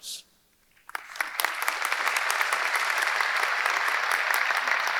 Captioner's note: audience applauding